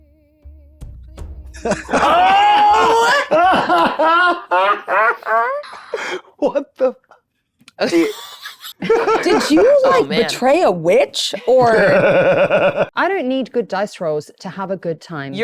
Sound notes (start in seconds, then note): 3.4 group laughs; 7.8 group laughs; 11.6 laughs